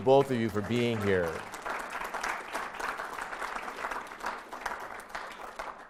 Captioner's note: audience applauds